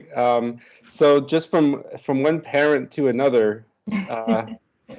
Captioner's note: laughter